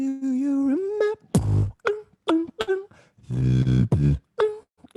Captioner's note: beatboxing